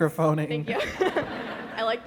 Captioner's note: laughter